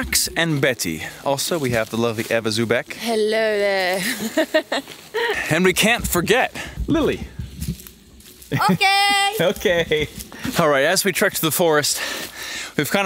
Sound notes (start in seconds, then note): 3.8 laughs